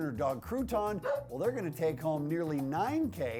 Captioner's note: dog barks